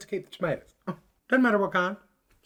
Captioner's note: scoff